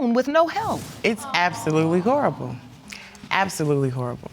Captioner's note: audience exclaiming